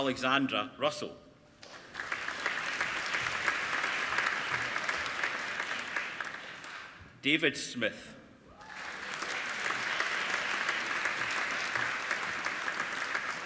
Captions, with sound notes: Alexandra Russell (APPLAUDING) David Smith (APPLAUDING)